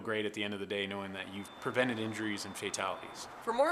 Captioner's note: sounds of vehicles driving on road